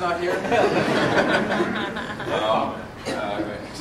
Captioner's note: laughter